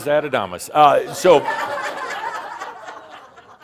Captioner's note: more laughter